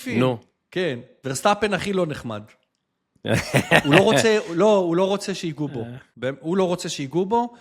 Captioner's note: laughter